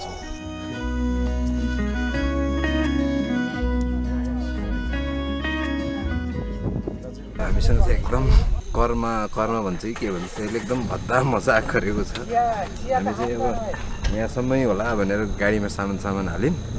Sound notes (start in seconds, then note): 8.3 laughs; 12.2 laughter